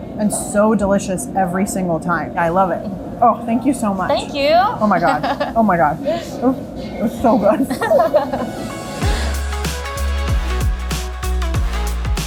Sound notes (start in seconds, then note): 7.2 both chuckling; 7.8 upbeat music